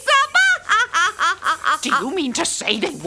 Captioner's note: laughs